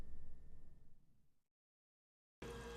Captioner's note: none